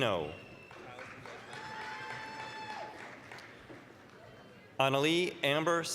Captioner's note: applause, cheering